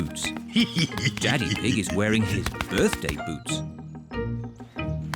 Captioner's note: laughs